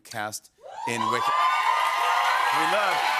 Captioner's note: cheers and applause